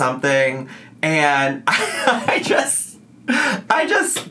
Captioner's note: laughs